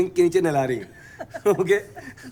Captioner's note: laughter